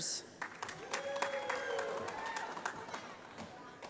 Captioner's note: applause